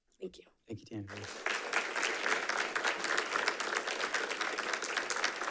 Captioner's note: audience applauding